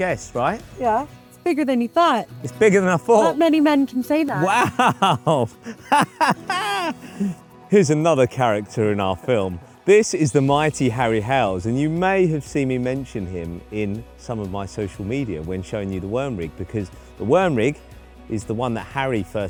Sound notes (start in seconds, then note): 4.3 laughs